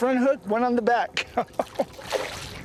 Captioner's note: laughter